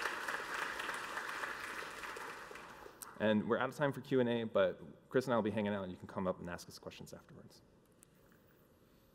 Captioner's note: applause